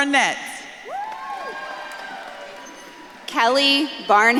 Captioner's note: audience claps and cheers